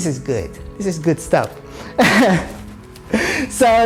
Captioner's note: laughs